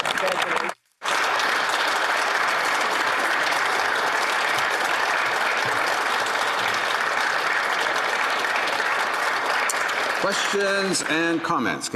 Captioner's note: applause